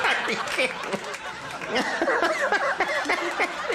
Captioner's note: audience laughing; laughs